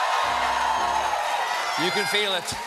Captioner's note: cheers and applause